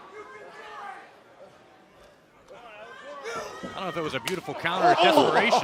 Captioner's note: crowd chatter